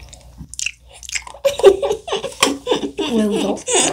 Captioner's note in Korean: 웃음